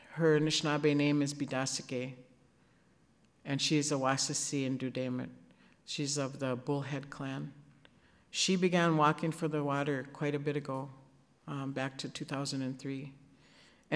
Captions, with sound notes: her Anishinabe name is Biidasake, and she's [speaking Ojibwe]. She's of the Bullhead clan. She began walking for the water quite a bit ago, back to 2003,